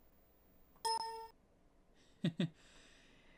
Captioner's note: windows ding sound